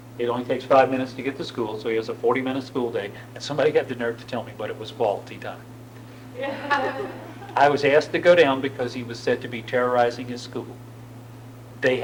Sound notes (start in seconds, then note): 6.4 laughter